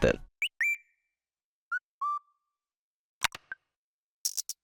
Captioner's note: whistles; click; shakers